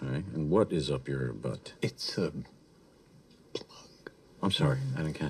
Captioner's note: whispers